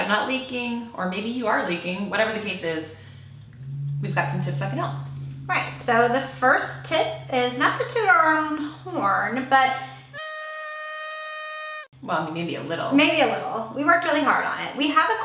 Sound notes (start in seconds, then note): 10.0 horn blows